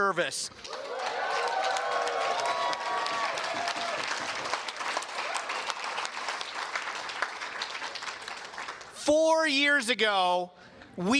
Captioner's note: cheers and Applause